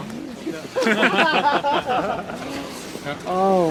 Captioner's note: laughter